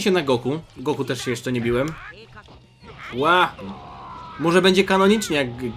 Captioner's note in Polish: krzyk